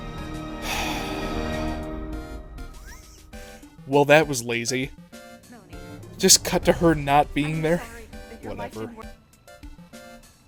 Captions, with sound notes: *sigh* *wheeze* Well that was lazy. Just cut to her not being there? Whatever.